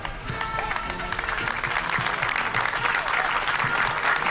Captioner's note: applause